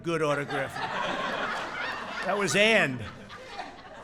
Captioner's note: laughter